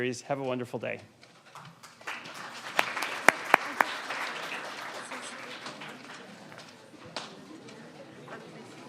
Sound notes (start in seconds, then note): 1.5 audience applauding; 7.6 audience chatting indistinctly